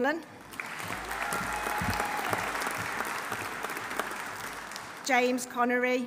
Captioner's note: audience applauding; audience cheering